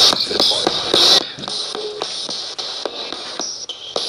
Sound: radio babbles

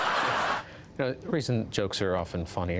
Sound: laughter

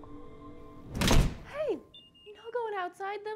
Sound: door slams

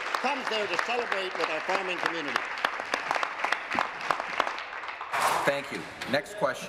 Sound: applause

